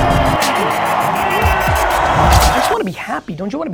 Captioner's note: audience cheering